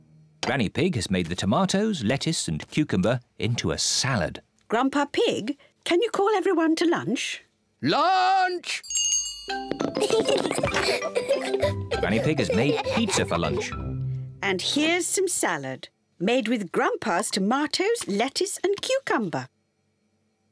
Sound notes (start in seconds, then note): 8.8 rings bell; 9.8 both laugh